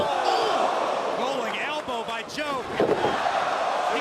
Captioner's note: crowd cheering